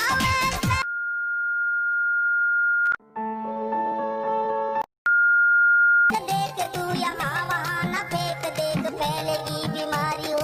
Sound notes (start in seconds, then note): 0.9 beep in the TV; 4.9 beep continues